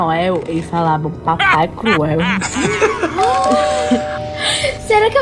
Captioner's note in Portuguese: risada malvada; som de campainha; suspiro surpreso